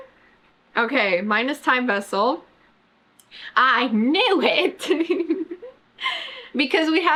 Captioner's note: laughs